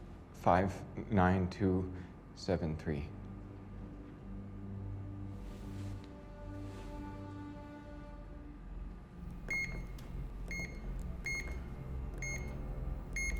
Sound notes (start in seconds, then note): 9.0 beeping